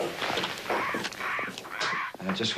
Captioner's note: norton screeching